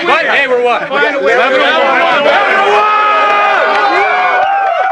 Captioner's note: cheers and applause